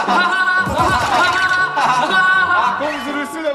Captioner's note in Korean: 하하하하